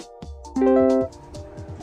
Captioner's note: correct ding